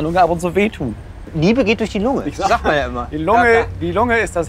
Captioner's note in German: lacht